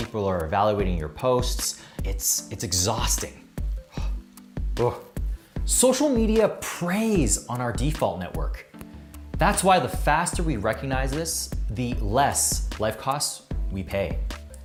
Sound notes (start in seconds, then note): 3.7 exhales